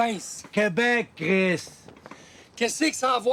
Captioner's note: Gilles speaks Spanish; Roots speaking Spanish